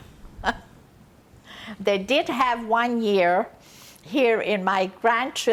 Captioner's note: laughing